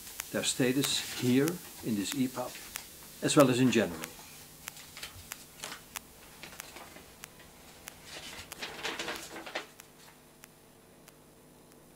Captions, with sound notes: Their status here, in this EPUB, as well as in general. [crumbling]